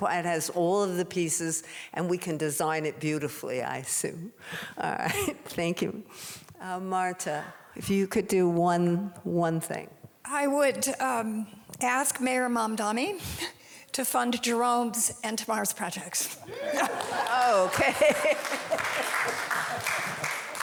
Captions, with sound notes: it has all of the pieces, and we can design it beautifully, I assume. All right, thank you. Marta if you could do one thing. - I would ask Mayor Mamdani to fund Jerome's and Tamar's projects. (audience applauding) - Okay.